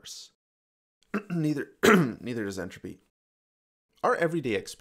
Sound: cough

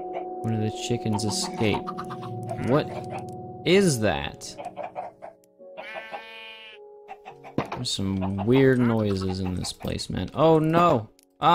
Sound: creepy noise

